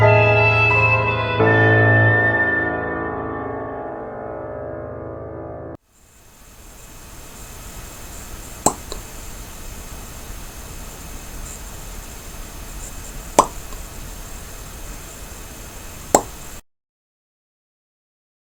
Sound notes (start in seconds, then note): 5.9 insects chirping; 7.4 blood dripping